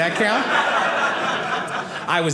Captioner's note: audience laughing